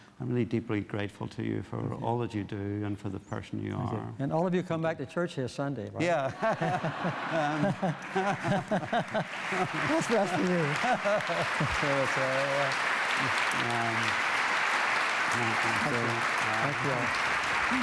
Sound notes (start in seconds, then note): 6.2 laughter; 9.1 applause